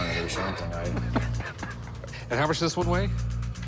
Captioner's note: laughs